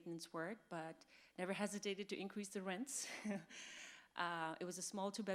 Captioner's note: laughs